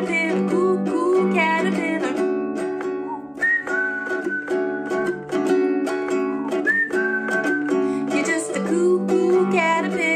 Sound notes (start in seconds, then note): 3.0 whistling